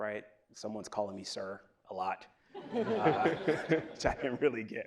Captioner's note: laughs